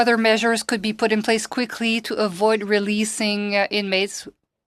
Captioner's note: speaking French